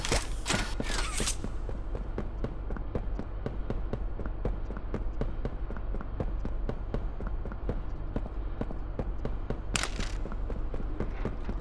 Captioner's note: gun firing